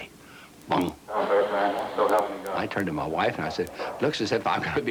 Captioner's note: laughing